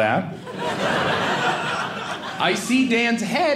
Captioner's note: audience laughing